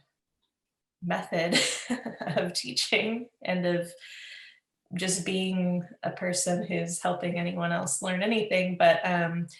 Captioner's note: laughs